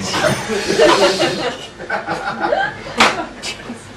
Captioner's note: laughing